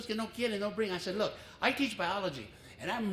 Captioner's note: foreign language